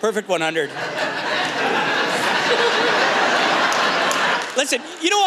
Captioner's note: laughter